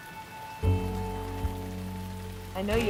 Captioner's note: rain pattering